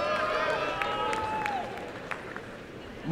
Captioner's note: applause and cheering